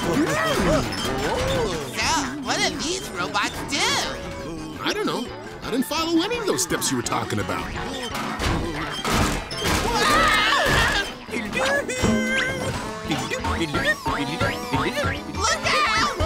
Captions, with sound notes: So, what do these robots do? Uh, I don't know. I didn't follow any of those steps you were talking about. [screaming] [beeping] Look out!